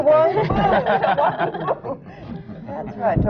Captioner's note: laughter